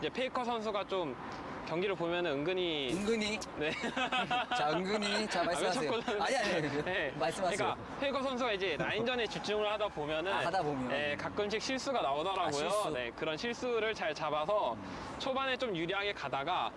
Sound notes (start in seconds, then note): 3.6 awkward laugh; 11.4 cautiously speaking